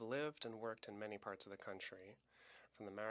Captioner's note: speaking French